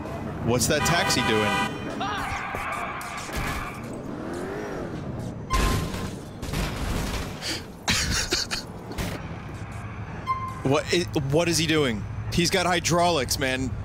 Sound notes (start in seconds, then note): 2.6 brakes, engine revving; 5.3 smashes; 7.8 chuckles